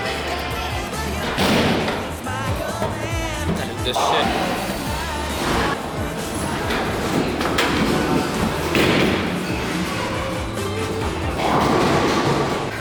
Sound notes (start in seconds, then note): 0.0 bowling sounds